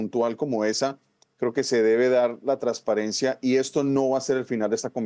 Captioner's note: HABLA EN INGLéS